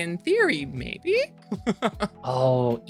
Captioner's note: laughs